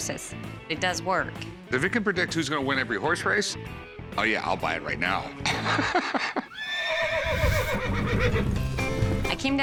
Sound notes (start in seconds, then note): 5.4 laughs; 6.4 horse whinny